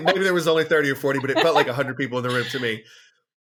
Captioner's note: laughs